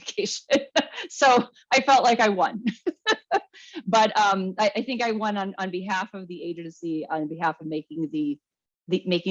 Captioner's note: laughs